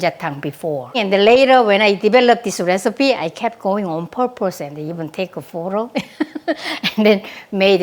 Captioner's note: laughs